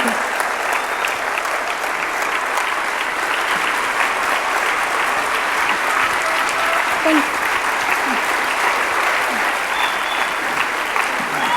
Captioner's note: audience clapping